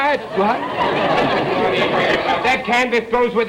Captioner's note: audience laughter